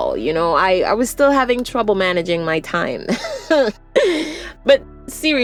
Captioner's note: scoffs